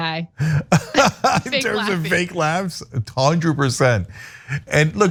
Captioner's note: laugh